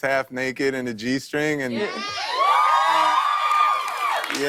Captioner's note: cheers and applause